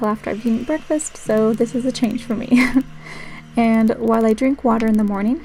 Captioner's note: laugh